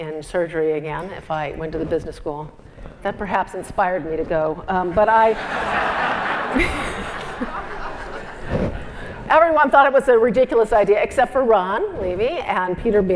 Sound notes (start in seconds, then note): 5.3 laugh